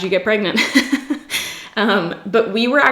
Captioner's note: laughs